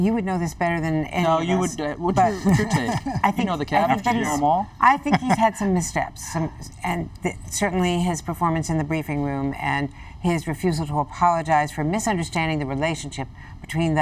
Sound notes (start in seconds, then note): 2.3 laughter